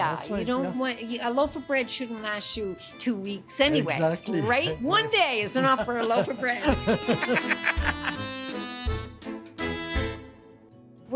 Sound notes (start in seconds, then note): 5.5 both laugh